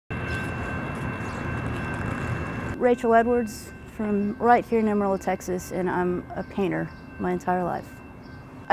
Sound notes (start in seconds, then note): 0.9 railroad crossing clanging